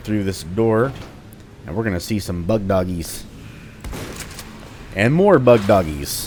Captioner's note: Bugdogs snarl, Shotgun blasting